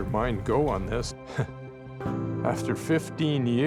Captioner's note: chuckles